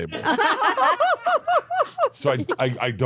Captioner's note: laugh